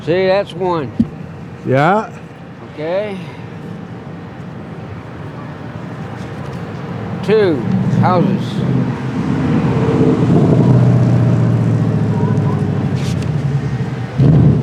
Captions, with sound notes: - See, that's one. - Yeah. - Okay. Two, houses. (traffic buzzing)